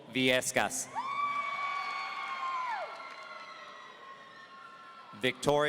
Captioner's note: audience cheering